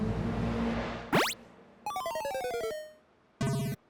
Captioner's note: video game sound effects